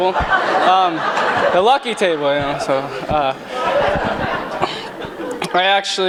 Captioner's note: laughter